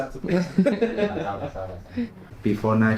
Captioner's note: laughing